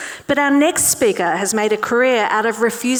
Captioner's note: none